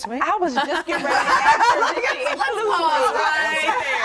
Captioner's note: laughter